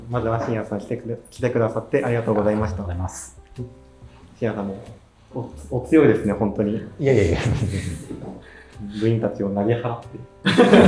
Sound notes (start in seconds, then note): 7.0 laughing